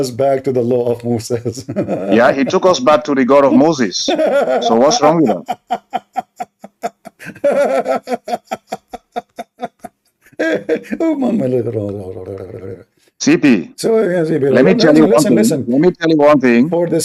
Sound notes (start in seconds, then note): 4.0 Ketawa